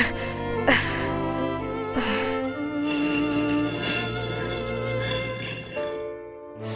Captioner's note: Elizabeth passing out gasp; stone sliding